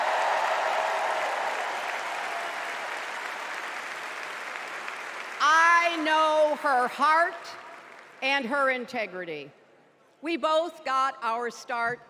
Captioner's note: cheers and applause